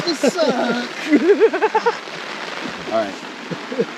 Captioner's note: team member laughing